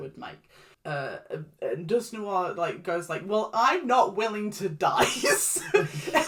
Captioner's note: laughs